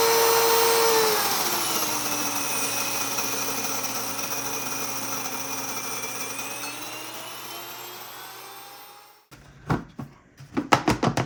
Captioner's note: grinder whirring